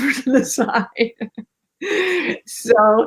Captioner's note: laughs